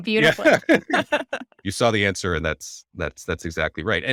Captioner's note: laughing